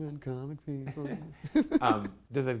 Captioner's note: chuckles